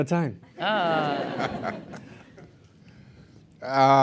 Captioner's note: laughter